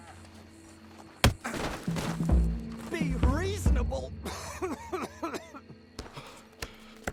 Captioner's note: coughs